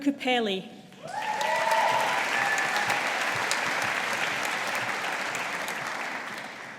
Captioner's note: audience applauding